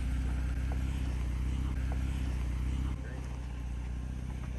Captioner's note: car engine hums